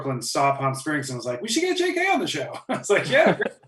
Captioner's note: laughs